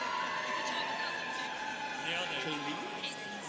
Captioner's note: students cheering